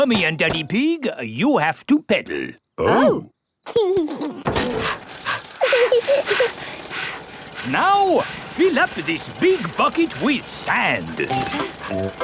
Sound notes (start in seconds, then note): 4.6 daddy pig panting; 4.6 mummy pig panting; 4.8 chuckles; 5.2 peppa chuckles